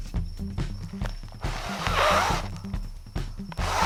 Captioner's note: blowing